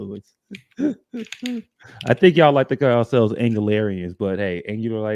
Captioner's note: laughs